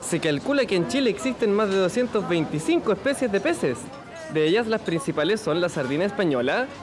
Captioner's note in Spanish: none